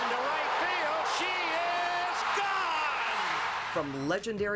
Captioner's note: cheering and applause